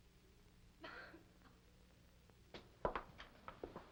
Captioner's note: Helen coughs